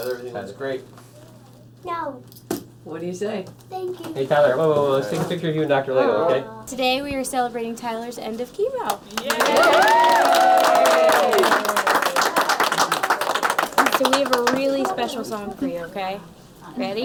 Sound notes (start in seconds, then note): 9.0 applauding